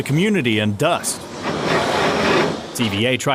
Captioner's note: water spraying